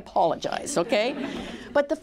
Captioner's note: laughter